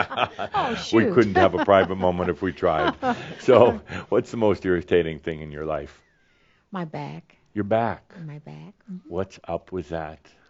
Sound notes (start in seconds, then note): 1.2 she chuckles